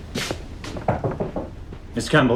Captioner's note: door knocking